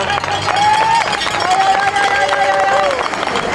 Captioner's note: applause & ringing of bells